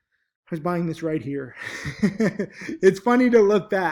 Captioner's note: chuckles